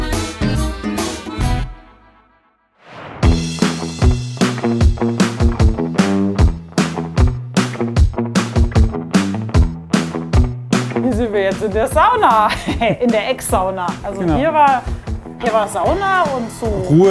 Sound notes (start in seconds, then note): 3.5 dynamic music; 12.4 laughs